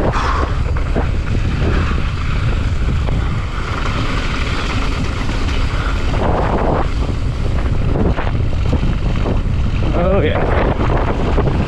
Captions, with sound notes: Whew! (tires rumbling) (wind whipping) Oh yeah.